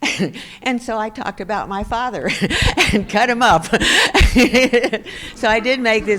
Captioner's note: laughs